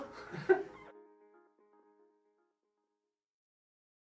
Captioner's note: chuckles